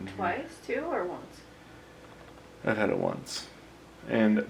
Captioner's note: none